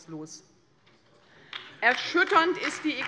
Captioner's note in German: Beifall bei der LINKEN